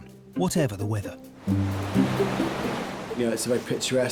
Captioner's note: waves crashing